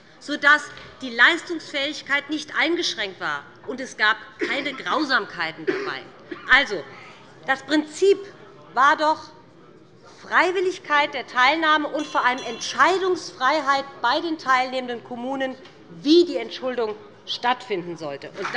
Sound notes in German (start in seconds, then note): 11.8 Unruhe - Glockenzeichen des Präsidenten